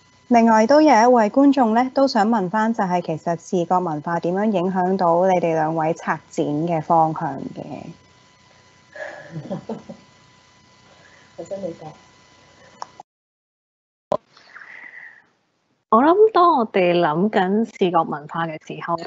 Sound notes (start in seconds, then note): 0.8 Cantonese; 8.9 chuckles; 10.2 Cantonese; 16.4 Cantonese